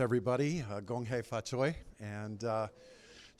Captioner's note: non-english speech